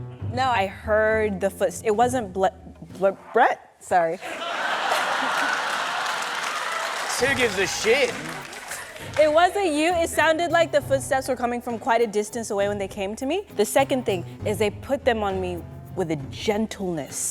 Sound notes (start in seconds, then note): 4.2 laughter